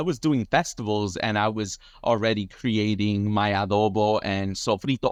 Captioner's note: speaks in foreign language